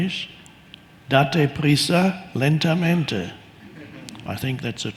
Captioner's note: speaking in foreign language